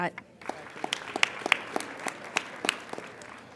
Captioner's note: applauding